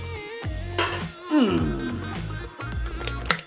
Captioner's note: grunts; can crinkles